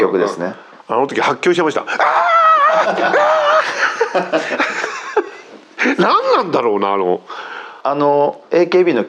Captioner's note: laughs